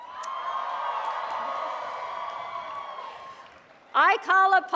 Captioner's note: cheers and applause